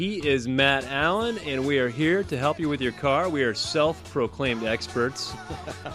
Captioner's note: laughs